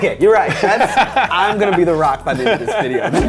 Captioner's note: laughing